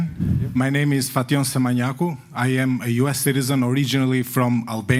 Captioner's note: non-english